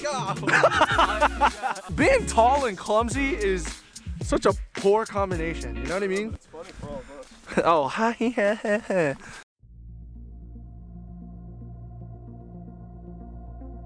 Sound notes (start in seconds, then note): 0.1 laughs; 9.7 intense electronic music